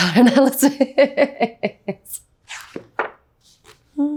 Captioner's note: Anya laughs